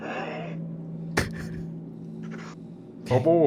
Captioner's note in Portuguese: risos